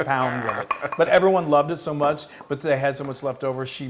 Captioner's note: laugh